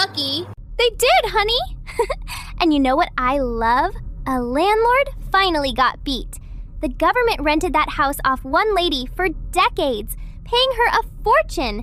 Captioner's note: laughs